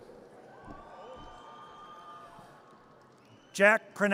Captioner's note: audience cheers